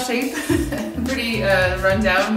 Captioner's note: laughs